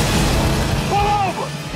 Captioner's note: crashing